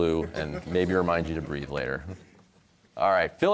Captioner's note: laughter